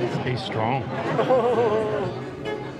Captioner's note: laughter